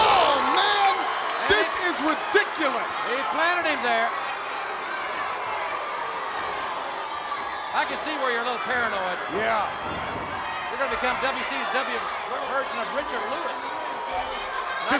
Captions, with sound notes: Oh man, this is ridiculous! He planted him there. (crowd clamoring) I can see where you're a little paranoid. Yeah. You're gonna become WCW's version of Richard Lewis.